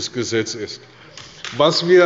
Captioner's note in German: Beifall bei der CDU und dem BÜNDNIS 90/DIE GRÜNEN